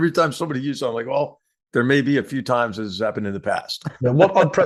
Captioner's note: laugh